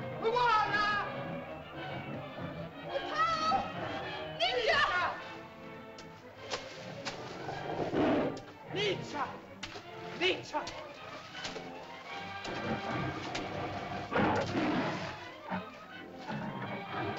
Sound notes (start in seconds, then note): 0.0 suspenseful music; 4.4 Loana shouts at Tumak; 4.4 water splashes; 7.2 dinosaur growls; 8.7 water splashes; 12.3 dinosaur growls; 14.1 water splashes